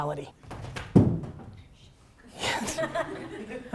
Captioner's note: bag drops; all laugh